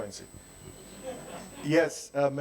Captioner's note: audience laughing